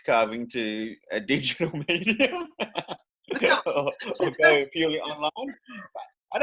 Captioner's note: laughs